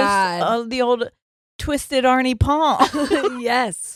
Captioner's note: murmurs